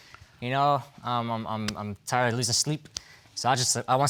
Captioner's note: stammers